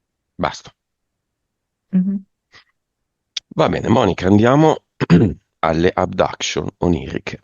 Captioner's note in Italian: schiarire la voce